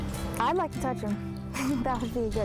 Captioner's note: laughs